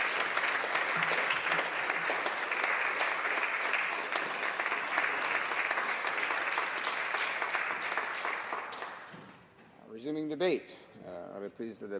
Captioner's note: applause